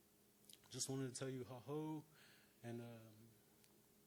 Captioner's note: speaking Algonquian